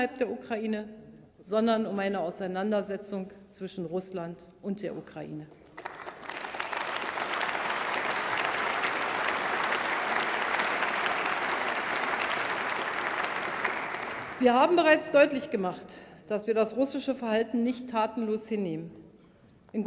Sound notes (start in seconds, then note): 5.6 Applause by CDU and members of SPD and the Greens